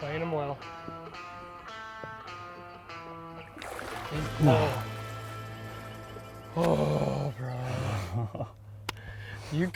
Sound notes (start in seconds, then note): 3.4 water splashing